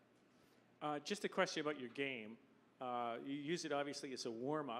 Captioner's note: voiceover